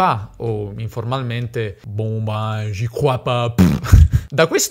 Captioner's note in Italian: pernacchia